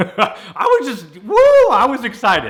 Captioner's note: laughing